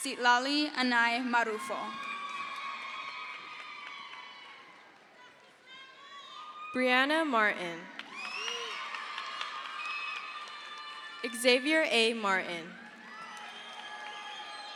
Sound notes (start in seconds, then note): 2.0 crowd cheers; 6.7 woman shouts; 9.1 crowd cheers; 13.3 crowd cheers